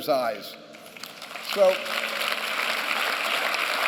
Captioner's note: applause